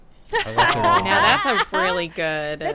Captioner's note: group laughing